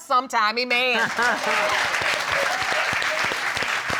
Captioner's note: audience laughing and applauding